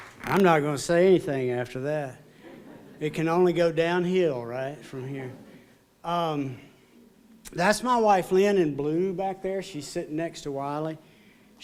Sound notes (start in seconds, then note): 5.7 laughter